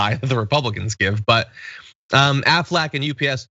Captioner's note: laugh